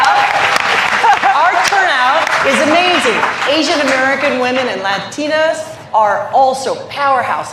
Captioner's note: cheers and applause